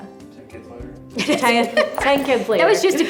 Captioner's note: laughs